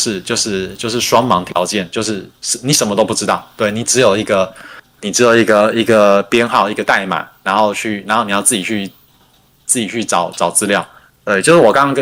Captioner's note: non-english speech